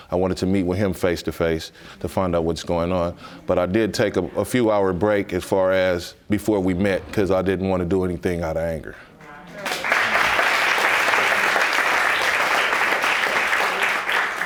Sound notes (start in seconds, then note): 9.5 audience applauds